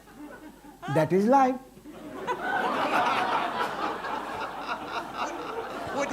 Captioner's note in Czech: smích